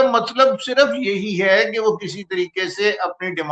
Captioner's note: none